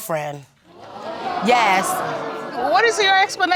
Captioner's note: audience gasps